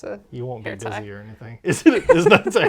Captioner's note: laughs